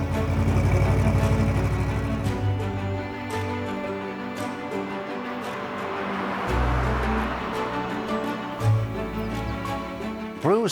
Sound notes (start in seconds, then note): 0.0 engine sputters across; 5.2 car zooms; 9.1 poignant inspiring music continues